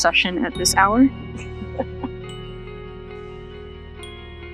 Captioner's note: chuckles